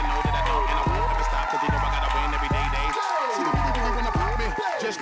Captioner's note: cheers and applause